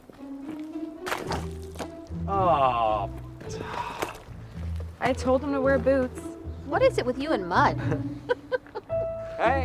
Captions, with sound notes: [SPLAT] OH... I TOLD HIM TO WEAR BOOTS. WHAT IS IT WITH YOU AND MUD?